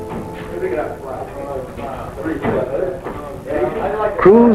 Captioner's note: men chattering